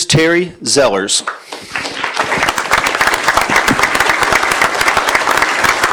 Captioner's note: applause